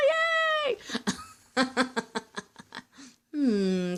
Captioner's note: laughing